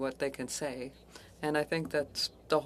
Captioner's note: speaking French